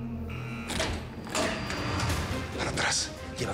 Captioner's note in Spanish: sonido de la alarma